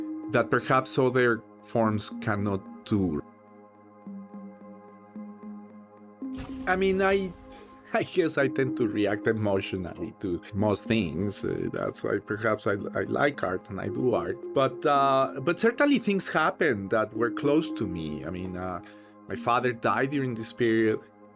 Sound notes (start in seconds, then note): 5.7 scoffs